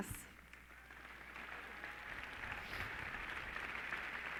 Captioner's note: clapping